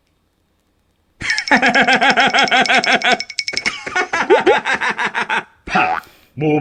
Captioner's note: laughs